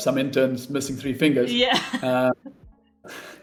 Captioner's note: laughs